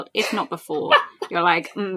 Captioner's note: laughs